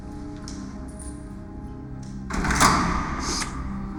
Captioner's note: door rattles